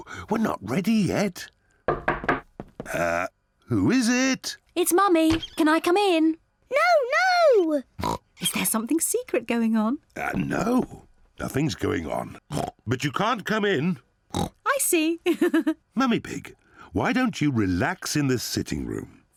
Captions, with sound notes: -We're not ready yet. -(KNOCK AT DOOR) Uh, who is it? It's Mummy. Can I come in? No, no! (OINKS) Is there something secret going on? Uh, no. Nothing's going on. (OINKS) But you can't come in. (OINKS) I see! (LAUGHS) Mummy Pig, why don't you relax in the sitting room?